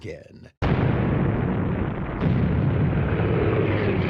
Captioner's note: explosion booms